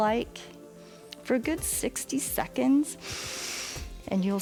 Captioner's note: inhales